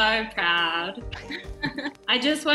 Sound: laughing

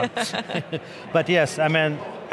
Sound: laughing

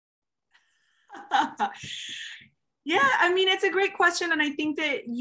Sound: chuckling

